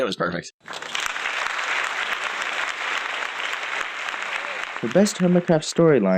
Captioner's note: applause